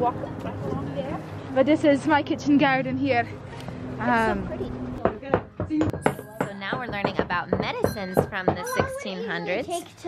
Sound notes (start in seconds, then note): 5.0 mortar & pestle pounding softly